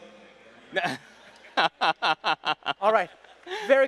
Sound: laughs

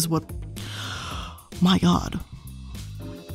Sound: gasps

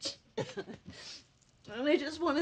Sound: crying, sniffles

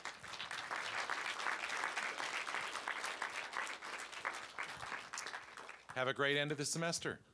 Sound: applause

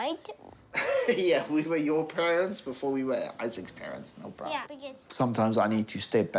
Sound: chuckles

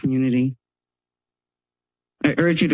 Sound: pause

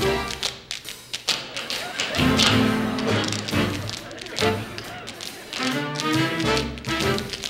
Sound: music and tapping; intermittent laughing; music and tapping

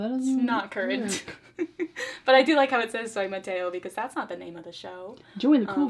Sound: laughs

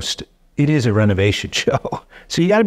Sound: chuckling

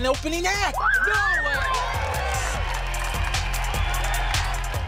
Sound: cheering

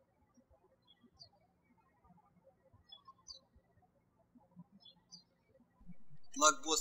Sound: birds chirping

